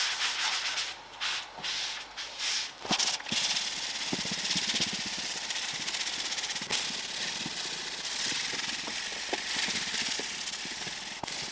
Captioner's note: working sound